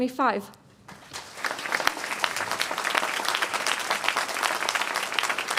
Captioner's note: applause